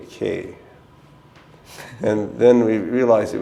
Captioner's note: chuckle